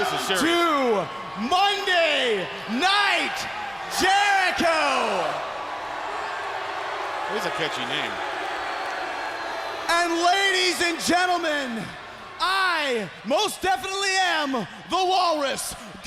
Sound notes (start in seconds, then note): 1.6 crowd chatter; 9.0 crowd cheering